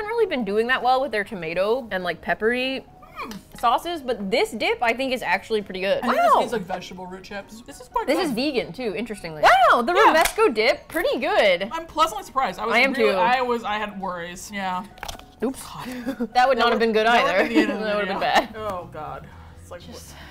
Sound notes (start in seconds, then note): 15.4 chuckles nervously; 15.8 sighs in relief